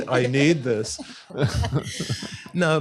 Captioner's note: laughter